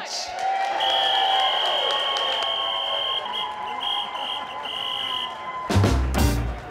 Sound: whistle

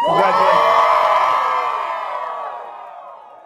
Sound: cheering

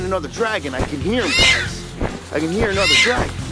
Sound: dragon squeals

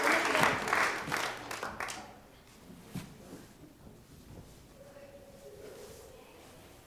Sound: applause

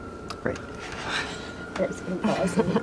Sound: laughter

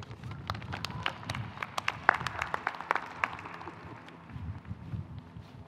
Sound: audience clapping

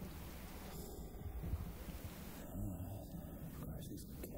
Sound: Jason sighs

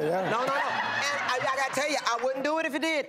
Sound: laughing

